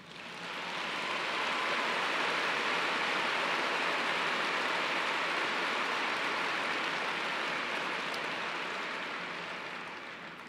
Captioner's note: applause